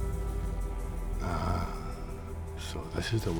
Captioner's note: scottish accent